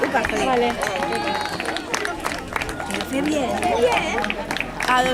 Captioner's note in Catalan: Aplaudiments